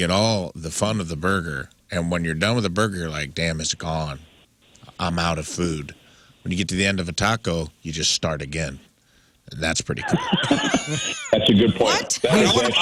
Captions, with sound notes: all the fun of the burger. And when you're done with the burger, you're like, damn, it's gone. I'm out of food. When you get to the end of a taco, you just start again. That's pretty cool. (Laughing) That's a good point. What?